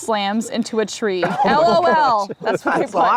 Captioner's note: group laughs